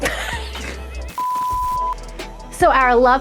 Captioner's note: laughing; beep